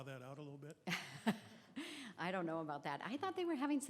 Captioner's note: laughs